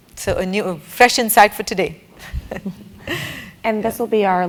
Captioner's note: laugh